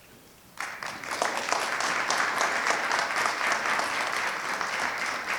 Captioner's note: audience clapping